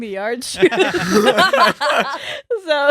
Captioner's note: laughing